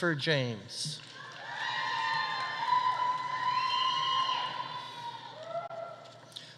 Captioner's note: audience applauding; audience cheering